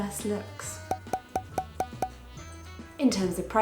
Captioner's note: graphics pop